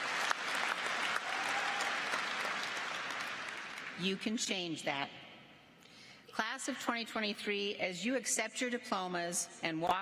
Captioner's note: applause